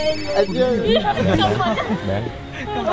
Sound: laughs

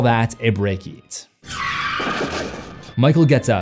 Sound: tires screeching

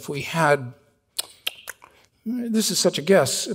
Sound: Stan clicking his tongue

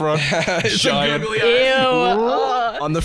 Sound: shudders

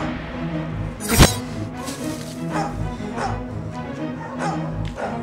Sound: knife thuds

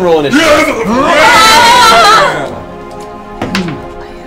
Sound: all yell

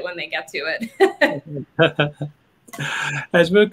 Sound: laughing

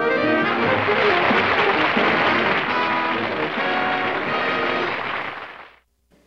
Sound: upbeat music; applause

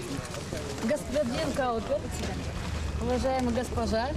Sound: non-english speech

